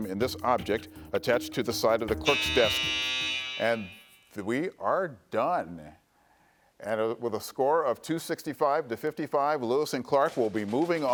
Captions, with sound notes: introduce bills by placing them in this object attached to the side of the clerk's desk. (final buzzer sounding) And we are done. And with a score of 265 to 55,